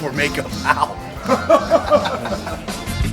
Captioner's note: laughing; laughs; reggae music playing